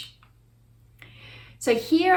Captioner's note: mouse clicks